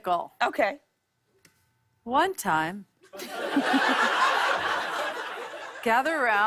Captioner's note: laughter